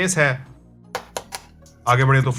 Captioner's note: tap, tap, tap